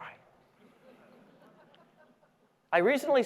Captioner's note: audience laughing